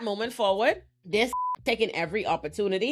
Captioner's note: beep